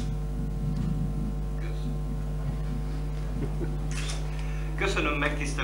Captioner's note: laughter